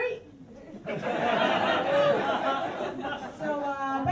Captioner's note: laughter